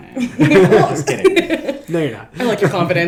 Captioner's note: chuckles